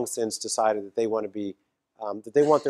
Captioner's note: cough